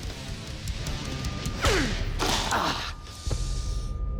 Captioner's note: gasps